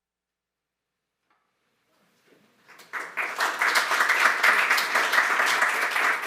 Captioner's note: applause